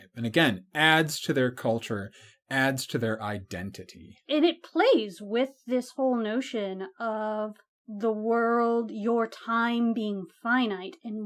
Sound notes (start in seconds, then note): none